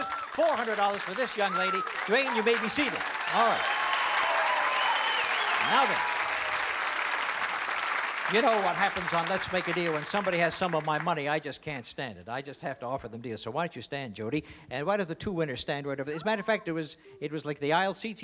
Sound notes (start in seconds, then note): 4.5 cheering